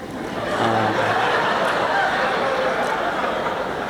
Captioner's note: laughter